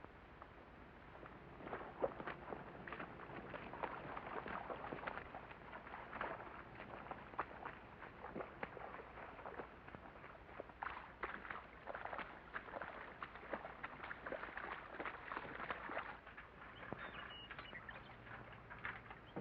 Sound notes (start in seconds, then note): 1.5 water splashes